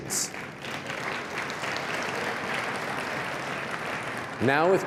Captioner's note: applause